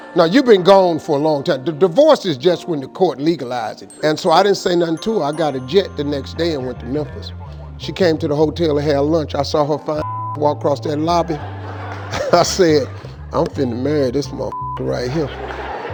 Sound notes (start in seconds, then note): 10.1 beep; 14.5 beep